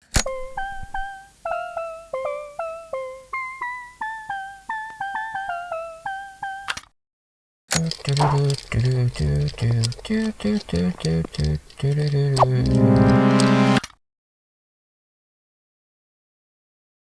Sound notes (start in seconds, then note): 0.1 light jingle; 7.8 imitates jingle; 12.4 loud tones